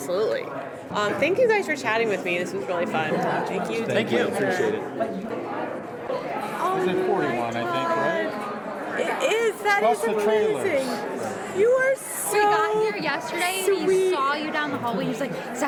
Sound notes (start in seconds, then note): 6.8 background chatter